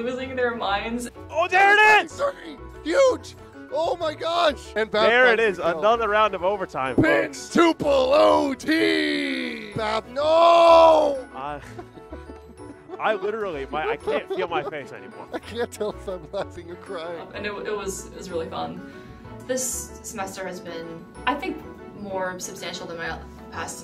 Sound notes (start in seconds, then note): 11.5 exhausted laughter; 15.3 mid laughter